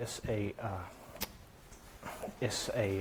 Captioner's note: smack